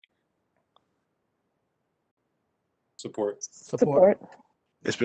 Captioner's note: none